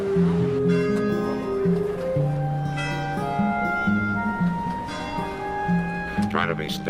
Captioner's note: bell rings